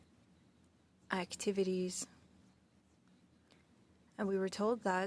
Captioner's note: speaking French